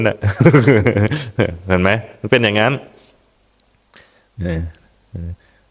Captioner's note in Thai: เสียงหัวเราะ